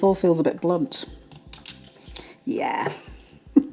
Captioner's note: splurt